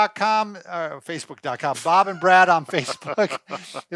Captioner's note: laughs